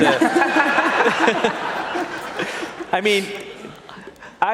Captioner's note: laughter